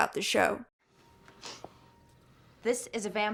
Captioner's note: sniffs